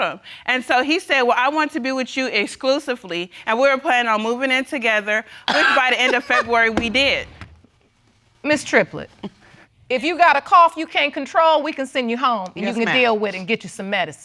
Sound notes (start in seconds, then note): 5.4 coughs